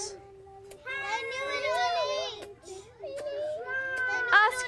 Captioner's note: children all talk